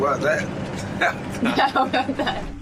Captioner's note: laughs